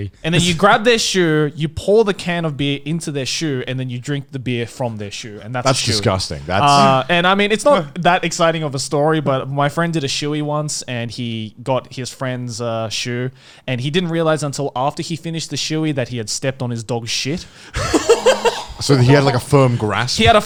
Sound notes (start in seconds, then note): 17.7 laughing